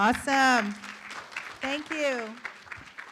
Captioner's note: room applauds